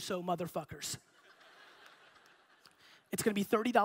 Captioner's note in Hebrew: הקהל צוחק